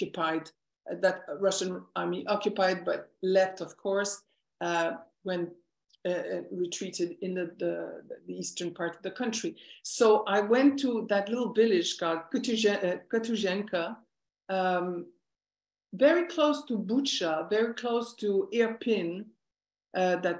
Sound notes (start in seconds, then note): 13.9 non-english speech